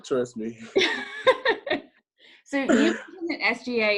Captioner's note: laughs